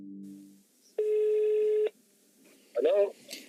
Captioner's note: ringtone